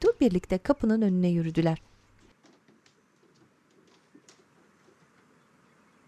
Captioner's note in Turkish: Sessizlik